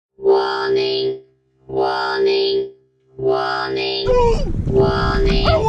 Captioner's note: computerized voice